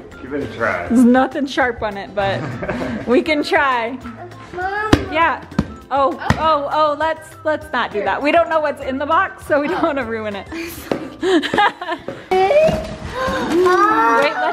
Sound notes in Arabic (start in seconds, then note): 11.7 ضحكات خافتة